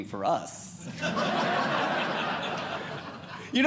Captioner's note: audience Laughing